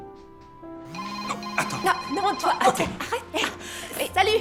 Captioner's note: phone rings